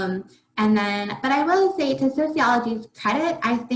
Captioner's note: faintly speaking